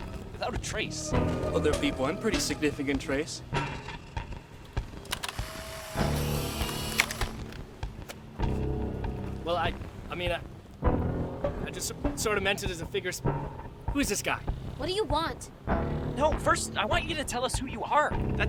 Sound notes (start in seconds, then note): 6.4 camera clicking